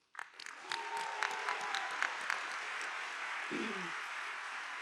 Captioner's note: audience applauding